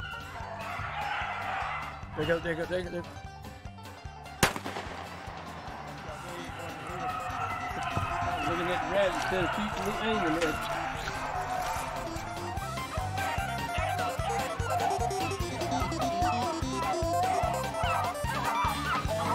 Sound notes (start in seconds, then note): 4.4 gun fires; 14.0 dogs barking